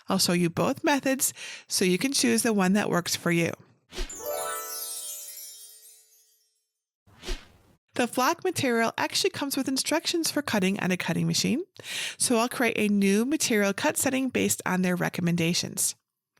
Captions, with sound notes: I'll show you both methods, so you can choose the one that works for you. (screen whooshing) (magic sparkling) (screen whooshing) The flock material actually comes with instructions for cutting on a cutting machine, so I'll create a new material cut setting based on their recommendations.